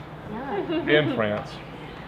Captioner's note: laughter